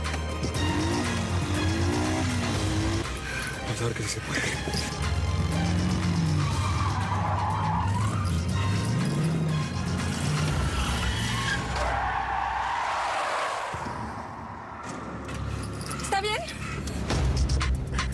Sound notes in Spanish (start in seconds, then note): 0.4 ruido de la motocicleta; 6.1 chirrido de llantas; 10.3 chirrido de llantas